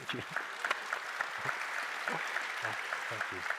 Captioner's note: applause